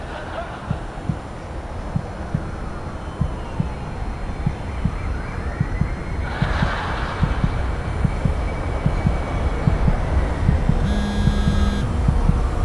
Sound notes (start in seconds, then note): 0.0 quiet laughing; 5.9 fast heartbeat; 10.7 phone vibrates